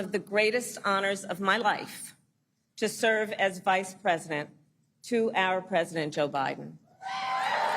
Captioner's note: applause